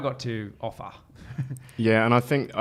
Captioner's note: chuckles